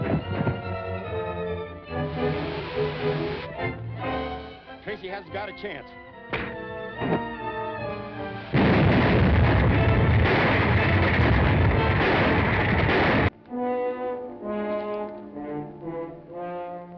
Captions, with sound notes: [DRAMATIC MUSIC] Tracy hasn't got a chance. [PUNCH THUDS] [BODY THUDS] [EXPLOSION]